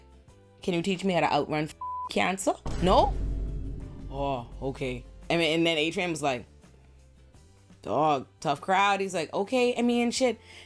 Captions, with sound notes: "Can you teach me how to outrun (beep) cancer? No? Oh, okay." And then Adrian was like, "Dawg, tough crowd." He's like, "Okay, I mean, shit.